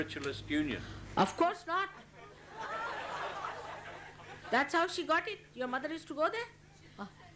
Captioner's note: laughter